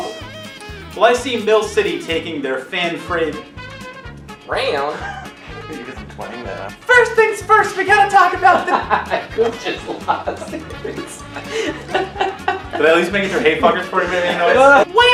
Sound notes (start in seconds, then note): 8.4 laughs in background; 11.7 more laughter